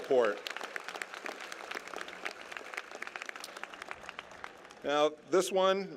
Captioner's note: applause